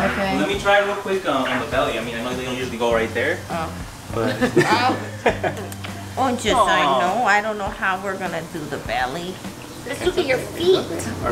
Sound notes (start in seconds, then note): 5.6 lip smacking